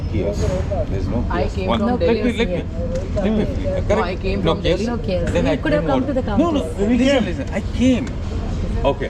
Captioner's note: people chatter